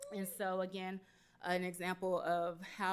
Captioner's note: none